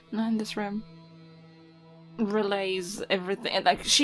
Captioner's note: none